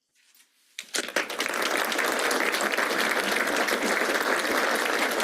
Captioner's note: applause